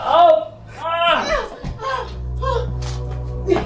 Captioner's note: groaning; dramatic music